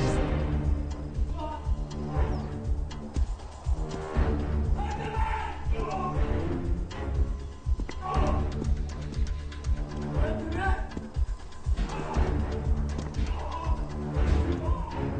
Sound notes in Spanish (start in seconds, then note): 1.3 Jonathan gritando; 7.9 Quejidos; 10.7 Golpes